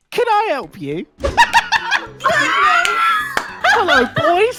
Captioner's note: laughter